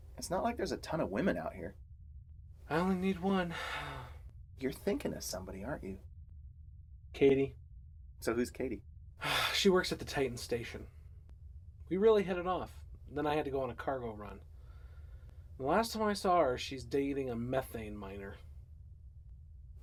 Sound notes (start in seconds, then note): 9.2 sighs